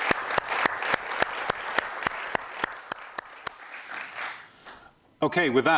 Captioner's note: audience clapping